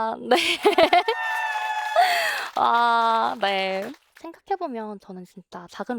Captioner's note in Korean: 환호